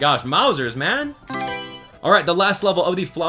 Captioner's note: Mario Selection Sound